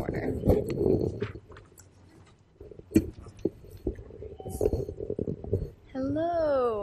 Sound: microphone rubbing

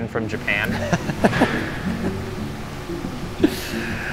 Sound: laughing

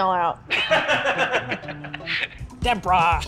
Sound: laughing

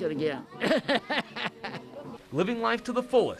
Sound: laughter

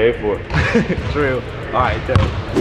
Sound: laughs

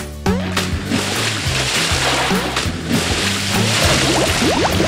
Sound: water splashing

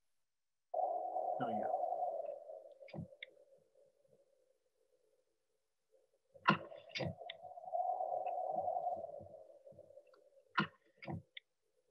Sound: wind whooshing

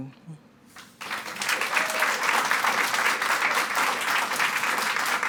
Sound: audience clapping

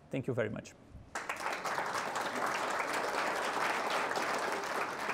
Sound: audience applauds

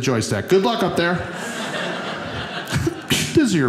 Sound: audience laughing

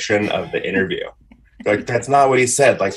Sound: laughs

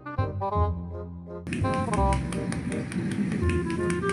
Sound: applauding in happiness

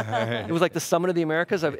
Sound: laughs

